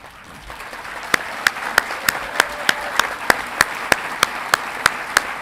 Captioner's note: audience clapping and cheering